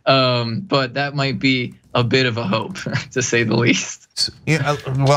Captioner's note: laugh